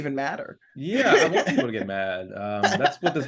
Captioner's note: laughing